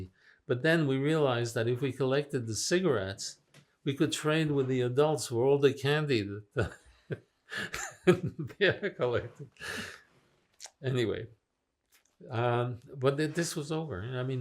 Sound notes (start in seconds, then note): 7.5 laughing